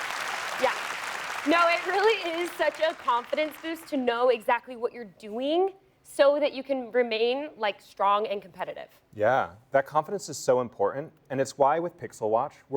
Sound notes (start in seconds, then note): 1.9 applause